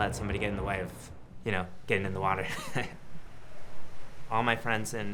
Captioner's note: laughs